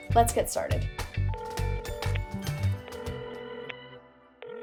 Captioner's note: phone ringing